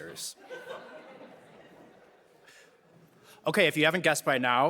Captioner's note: audience laughing